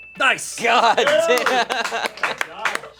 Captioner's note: bell dings; crew cheering and clapping